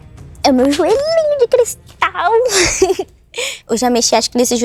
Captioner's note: laughs